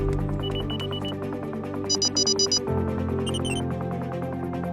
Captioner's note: alarm beeps